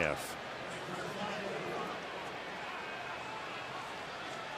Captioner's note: announcer on pa